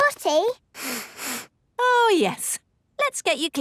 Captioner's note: sniffs